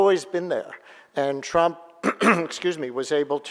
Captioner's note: clearing throat